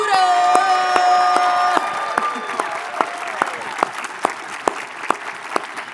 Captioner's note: audience clapping and cheering